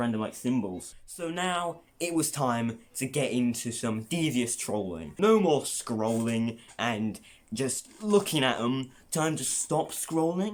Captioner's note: creaky ahh chair